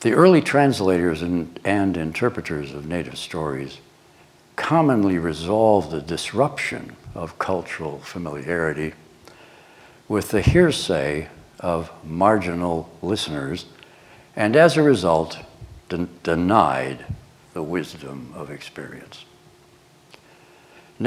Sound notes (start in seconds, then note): none